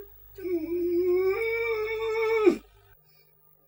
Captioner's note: whimpers